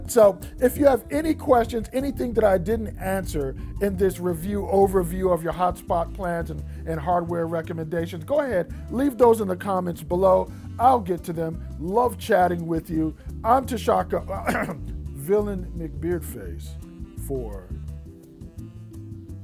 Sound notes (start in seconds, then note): 14.4 clearing throat